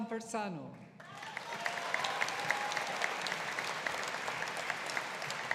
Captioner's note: audience applauding